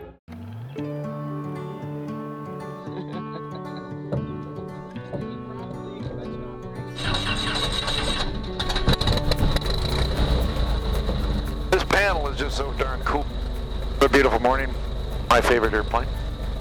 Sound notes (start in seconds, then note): 0.8 uplifting music; 3.0 laughs; 8.5 engine revs